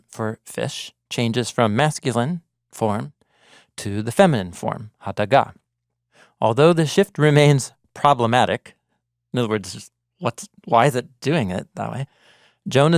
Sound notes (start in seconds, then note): 5.1 speaking in Hebrew